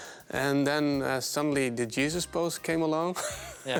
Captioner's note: laughing